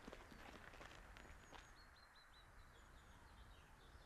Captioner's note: birds singing